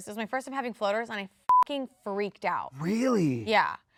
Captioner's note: beep